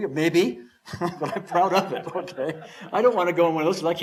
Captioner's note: chuckles